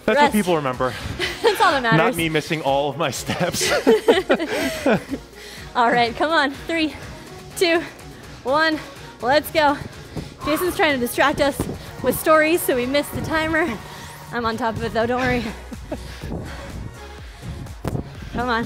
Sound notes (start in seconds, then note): 3.3 both laughing; 10.2 panting; 15.8 upbeat music